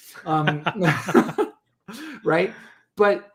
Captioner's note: laughing